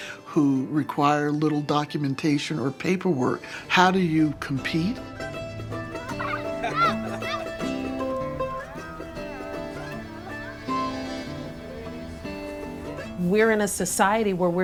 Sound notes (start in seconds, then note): 5.7 people laughing; 7.6 upbeat music